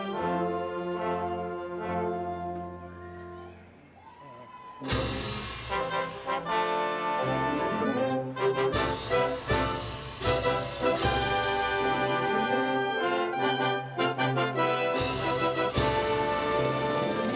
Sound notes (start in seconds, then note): 4.0 audience applauding; 6.6 bright instrumental music